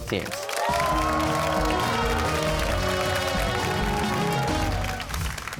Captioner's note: cheers and applause